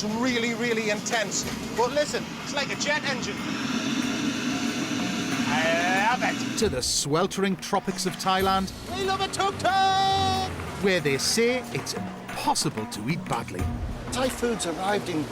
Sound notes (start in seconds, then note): 3.3 whirring